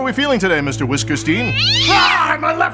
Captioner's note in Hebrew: יללה